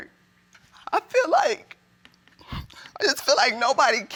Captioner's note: voice breaks